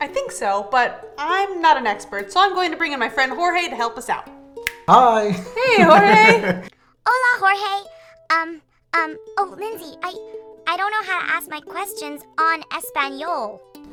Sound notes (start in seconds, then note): 4.6 snaps; 5.6 laughing; 7.1 speaking in a foreign language